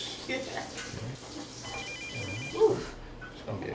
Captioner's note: phone rings